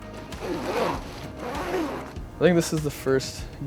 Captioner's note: bag unzipping